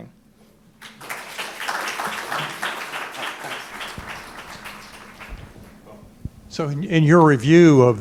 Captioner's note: applause